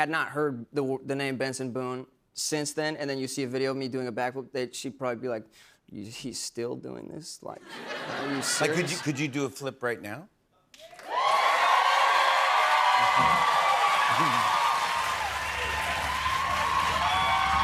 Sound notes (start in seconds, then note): 7.6 laughter; 10.8 cheers and applause; 13.2 drumroll